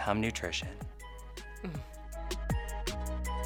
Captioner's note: sighs; background music gets louder